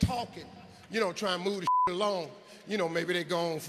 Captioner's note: beep